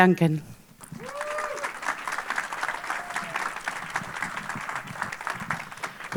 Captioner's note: audience applauding and cheering